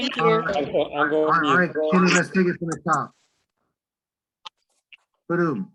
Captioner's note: microphone distortion